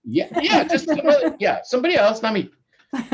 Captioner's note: both laughing